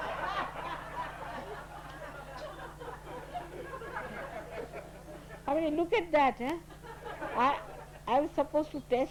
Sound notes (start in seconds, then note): 0.0 laughter